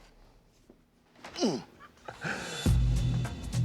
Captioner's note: grunts; chuckles